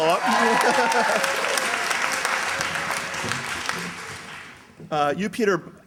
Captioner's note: cheers, applause